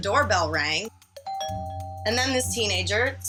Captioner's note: doorbell rings